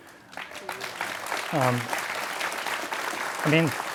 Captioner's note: audience applauds